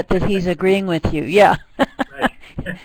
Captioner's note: laughs